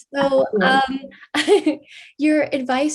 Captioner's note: laughs